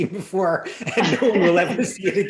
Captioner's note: laughter